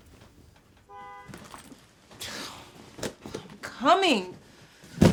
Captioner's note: car horn honking